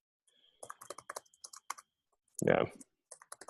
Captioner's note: keyboard clacking